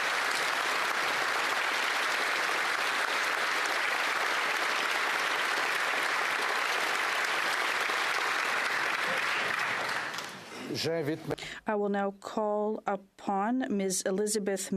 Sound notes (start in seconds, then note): 2.4 applause